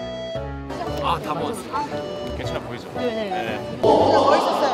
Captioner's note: they having conversation close